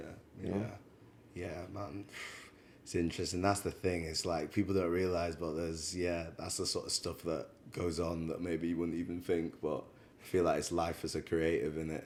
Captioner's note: sighs